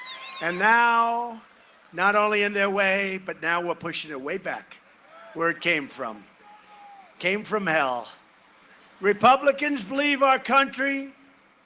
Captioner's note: cheering and applause